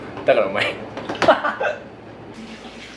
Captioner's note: laughter